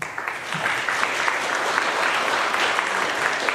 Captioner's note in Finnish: aplodeja